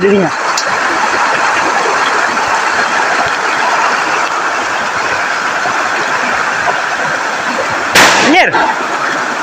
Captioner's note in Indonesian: suara air